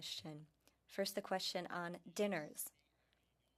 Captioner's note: speaking french